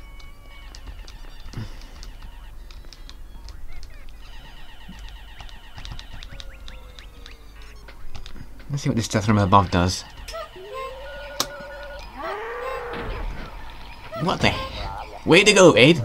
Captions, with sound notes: Let's see what this Death from Above does... *bird-clock strikes 2am* *MOOOOOO!!!* What the...?!